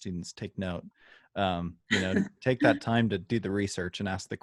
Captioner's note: laughter